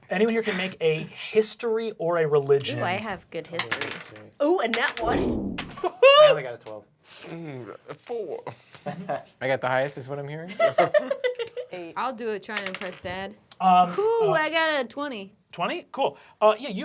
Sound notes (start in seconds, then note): 5.8 laughter